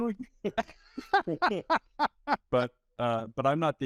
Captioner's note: both laughing